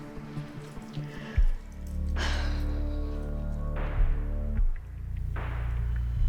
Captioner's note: sighs